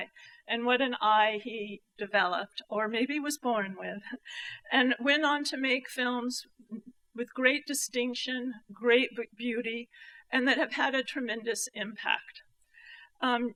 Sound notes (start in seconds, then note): none